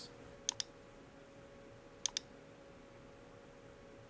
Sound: mouse clicking

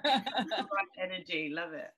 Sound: laughs

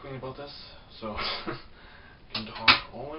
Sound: laughs

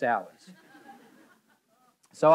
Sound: audience laughing

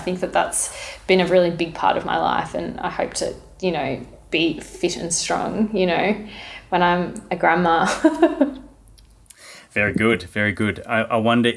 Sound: laughing

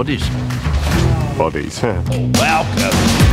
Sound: laughs

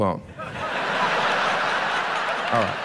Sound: audience laughs

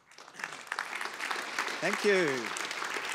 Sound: audience applause

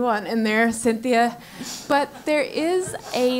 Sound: laugh

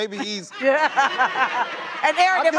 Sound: audience laughing

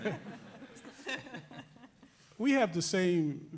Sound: laughing

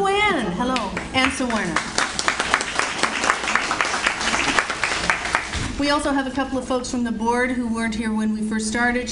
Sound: audience Applauds

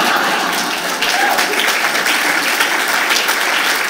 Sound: applause

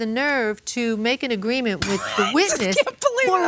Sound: laughs

